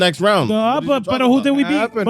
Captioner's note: speaking In Foreign Language